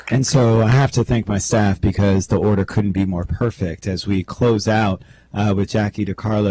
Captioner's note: clapping